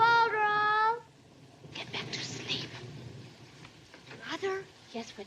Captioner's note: whispers